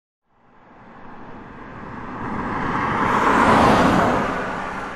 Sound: car whooshing

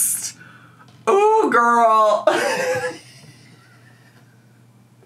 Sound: laughs

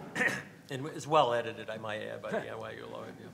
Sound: everyone laughs

